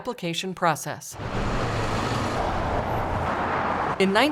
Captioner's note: sounds of cars driving